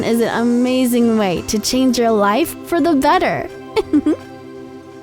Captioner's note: laugh